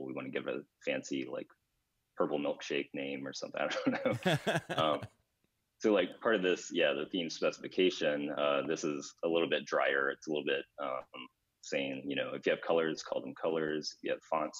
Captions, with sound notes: we wanna give it a fancy like Purple Milkshake name or something. (laughs) So part of this, the theme specification, this is a little bit drier, it's a little bit saying, if you have colors, call them colors.